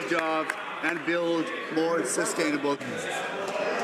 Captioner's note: some Applause